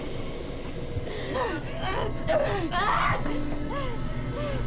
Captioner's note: overlapping screams